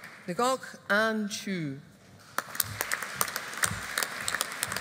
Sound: audience applauding

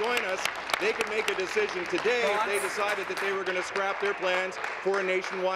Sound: applause

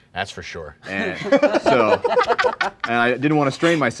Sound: laughing

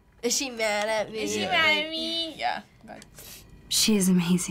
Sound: whiny

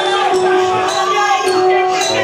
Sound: audience cheering

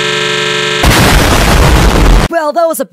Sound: kaboom!

